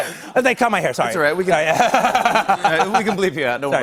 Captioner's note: laughter